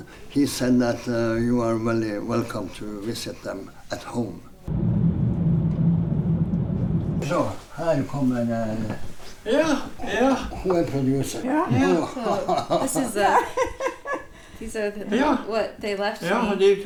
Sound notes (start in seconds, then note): 4.7 car humming; 11.6 laughing